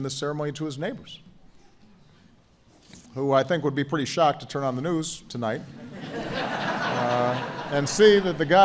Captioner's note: laughter